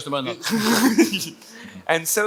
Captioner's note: both laughing